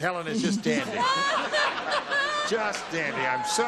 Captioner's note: laughter